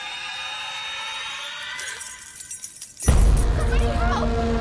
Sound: keys jangling

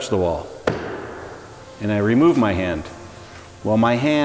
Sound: smacks

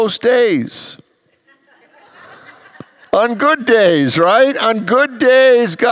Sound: congregants laugh

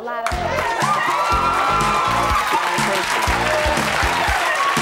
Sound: cheering and applause

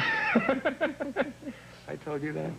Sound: laughs

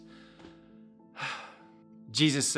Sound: sigh

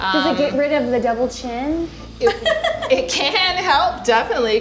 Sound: laughs at being shocked

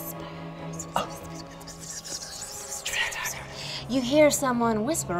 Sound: all whisper

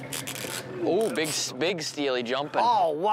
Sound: fishing reel clicking

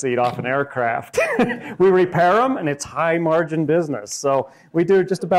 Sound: laughs

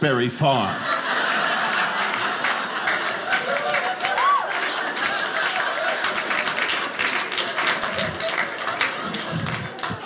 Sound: audience laughing

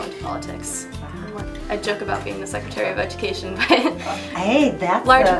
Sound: laughs

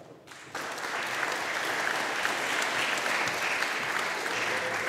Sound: audience applauding

